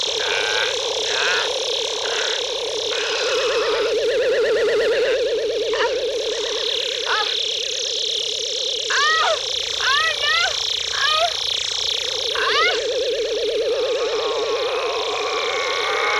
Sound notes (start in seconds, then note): 0.1 zapping; 8.9 wailing; 14.3 groaning